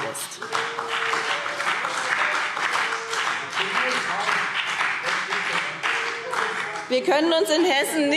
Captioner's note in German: Beifall BÜNDNIS 90/DIE GRÜNEN – Zurufe